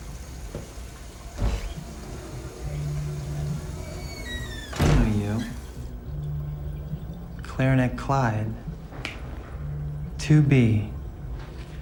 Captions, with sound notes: (door opens) (door squeaks and closes) - I know you. Clarinet Clyde. 2B.